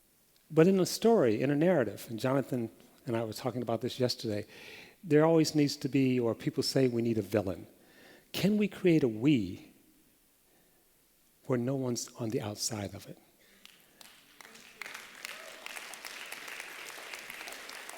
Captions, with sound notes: But in a story, in a narrative – Jonathan and I were talking about this yesterday – there always needs to be, or people say we need a villain. Can we create a we where no one is on the outside of it? [APPLAUSE]